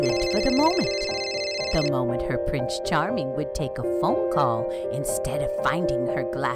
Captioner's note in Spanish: teléfono sonando